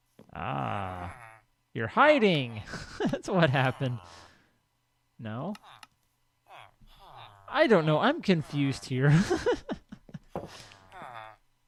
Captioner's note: laughs